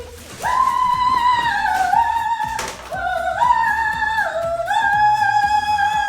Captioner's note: vocalizes; screams shrilly